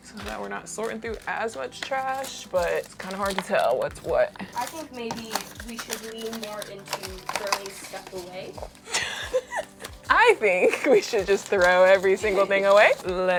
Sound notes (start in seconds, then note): 8.8 laughs